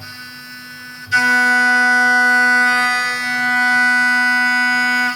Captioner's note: machine buzzing